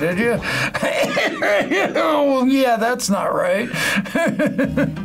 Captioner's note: coughs; laughs